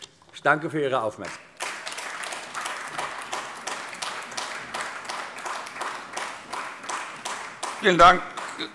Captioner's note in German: Beifall AfD